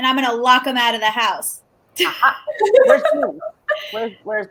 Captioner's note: laughs